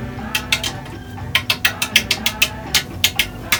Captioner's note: tapping easel